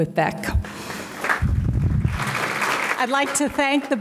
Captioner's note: audience clapping